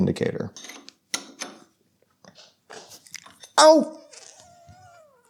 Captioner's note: tools clinking